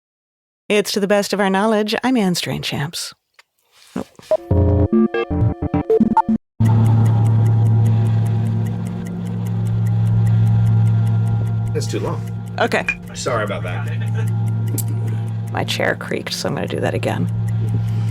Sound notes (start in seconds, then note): 4.5 soft electronic music; 7.0 clock ticking; 7.0 soft suspenseful music; 12.8 glass clinking; 14.6 people chattering distantly